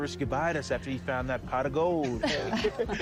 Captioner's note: all chuckle